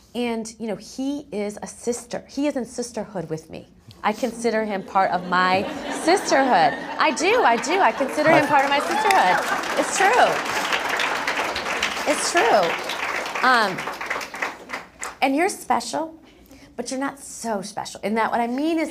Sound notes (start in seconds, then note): 4.3 laugh; 11.2 applause